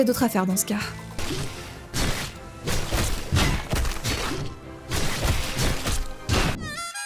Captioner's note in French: bruits de combat répétitifs